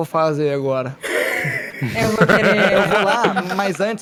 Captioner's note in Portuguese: Risos